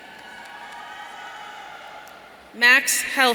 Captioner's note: audience cheering